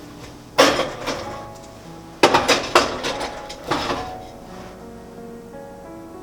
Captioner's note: heated oven